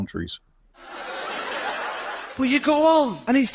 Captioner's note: laughter